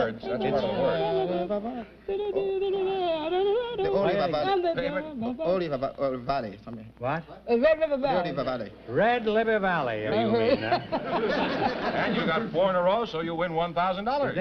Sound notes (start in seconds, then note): 0.3 humming; 4.8 singing; 5.5 humming; 10.2 chuckling